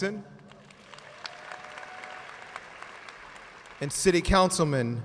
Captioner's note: audience cheers and applauds